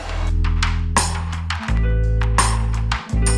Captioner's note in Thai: ปรบมือ